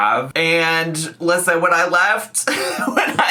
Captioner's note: laughing